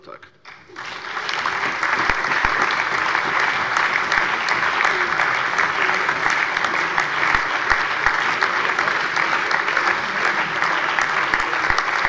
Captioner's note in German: Lebhafter allgemeiner Beifall